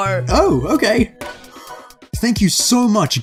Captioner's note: inhale